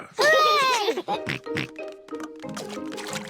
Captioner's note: peppa and george cheer